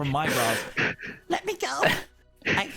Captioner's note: Krel still panting